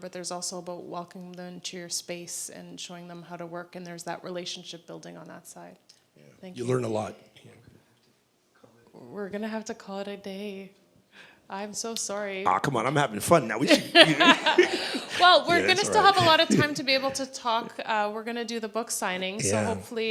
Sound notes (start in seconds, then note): 13.6 laughter